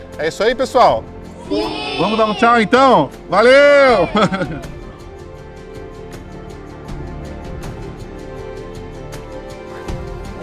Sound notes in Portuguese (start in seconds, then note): 1.3 crianças em coro; 3.5 todos em coro; 5.1 trilha sonora inspiradora